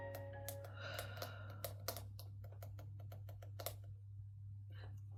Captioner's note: nervous tapping